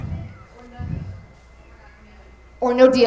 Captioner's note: light chatter